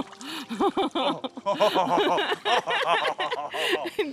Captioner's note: both laugh